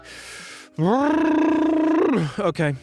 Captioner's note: blows a raspberry